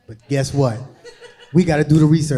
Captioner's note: crowd laughing